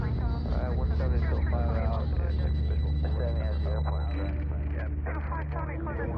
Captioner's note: sounds of satellite above Italy